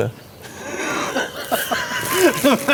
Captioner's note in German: lachen